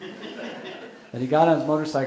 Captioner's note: audience laughing